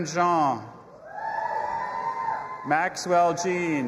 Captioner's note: audience applauding and cheering